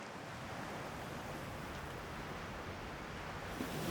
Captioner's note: waves crashing